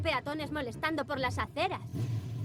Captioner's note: motorcycle approaching